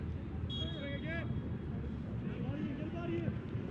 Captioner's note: whistle blows